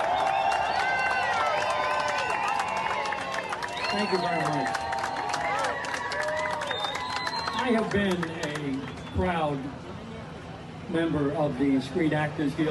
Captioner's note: applause